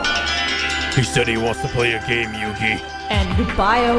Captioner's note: Jigsaw voice